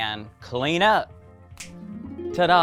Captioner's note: clicks fingers